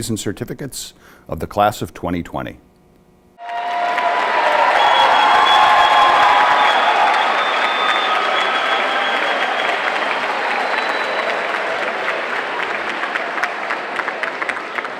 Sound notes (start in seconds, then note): 6.1 applause